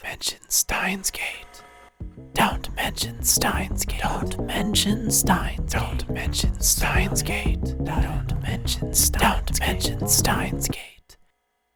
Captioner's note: whisper: Don’t mention